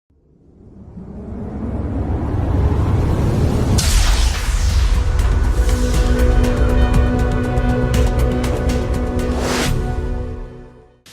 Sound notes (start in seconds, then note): 0.2 strong wind; 4.4 energetic music